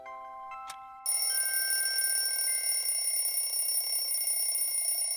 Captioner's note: alarm clock ringing